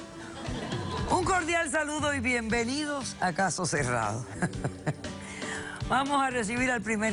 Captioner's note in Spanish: Risas